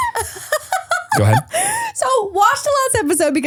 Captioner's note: person laughing